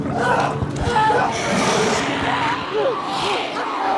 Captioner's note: growling; shrieking